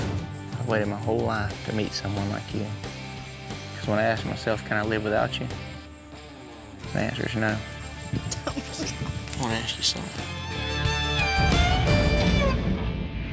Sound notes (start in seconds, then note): 8.2 cries